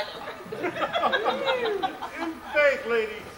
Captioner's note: laughs